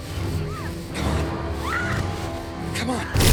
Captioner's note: screams